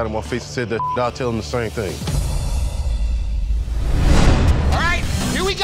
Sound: beep

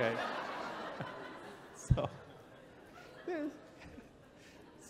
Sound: chuckles

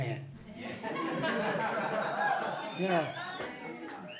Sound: laughing

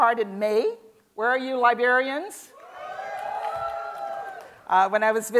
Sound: cheers and Applause

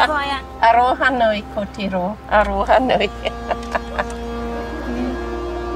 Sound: laughs

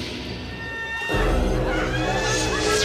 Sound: screaming

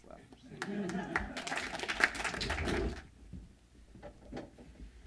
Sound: applause

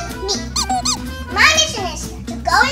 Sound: squeaky toy squeaks

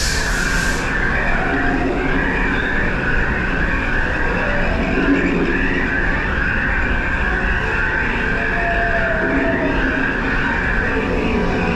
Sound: animal sounds, animals calling

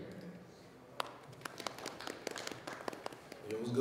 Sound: audience applauding

